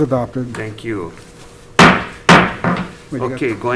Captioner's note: gavel bangs